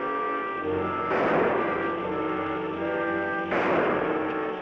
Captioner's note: gunshots bang